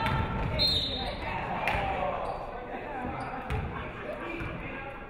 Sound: referee whistles

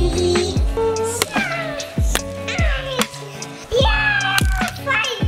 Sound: candy cane smacking

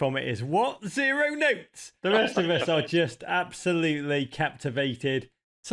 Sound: laughing

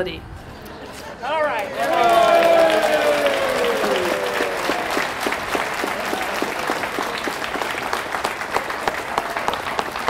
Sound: cheering and applause

